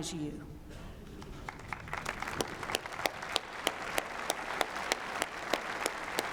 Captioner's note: applause